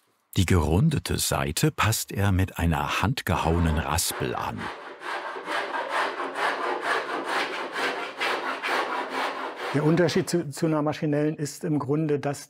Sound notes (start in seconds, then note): 3.4 scratching noises